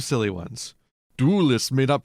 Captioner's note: vampire accent